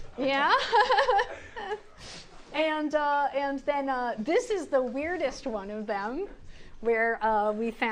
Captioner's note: laughs